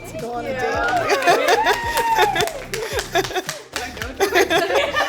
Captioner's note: all applauds